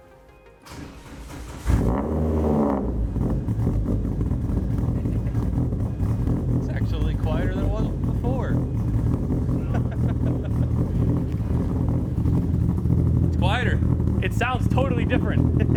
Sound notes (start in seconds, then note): 1.8 car engine roaring; 9.5 amused chuckling; 9.9 car engine roaring